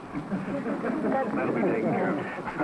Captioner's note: laughter